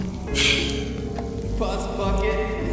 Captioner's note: both laugh; sighs